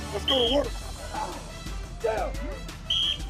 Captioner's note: whistle